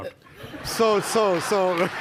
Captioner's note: audience laughter